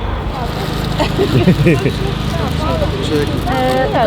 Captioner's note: laughter